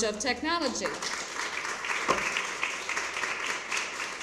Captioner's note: applause